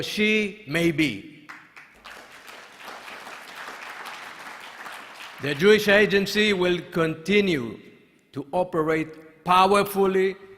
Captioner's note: applause